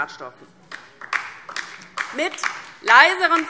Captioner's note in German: Beifall DIE LINKE